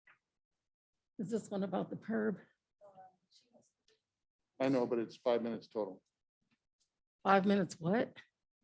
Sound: chattering

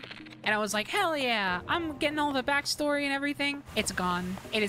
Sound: none

